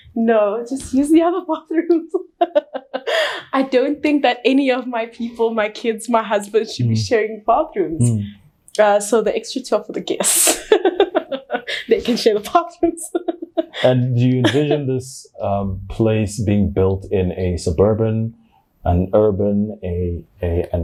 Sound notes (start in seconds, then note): 2.2 chuckles; 10.4 chuckles; 12.8 laughs